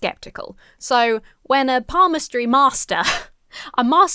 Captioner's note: chuckles